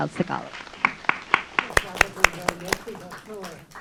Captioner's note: audience clapping